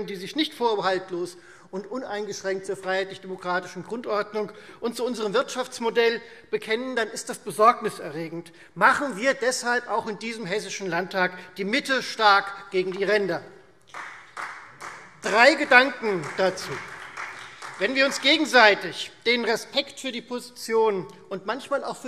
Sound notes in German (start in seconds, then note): 13.8 Beifall Freie Demokraten